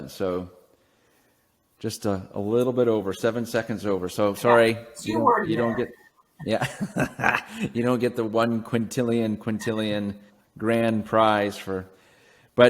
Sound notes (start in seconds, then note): 4.4 laughs